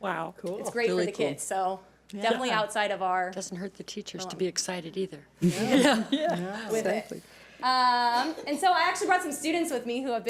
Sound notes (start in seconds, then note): 5.5 audience laughs